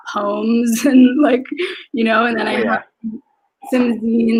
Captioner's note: speaks faintly